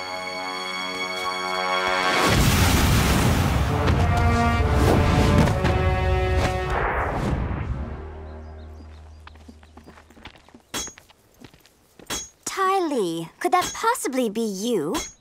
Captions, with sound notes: [flames roar] Ty Lee. Could that possibly be you?